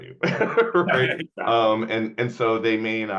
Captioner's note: laughing